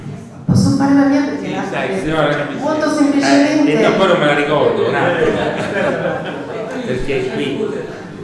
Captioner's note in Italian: risata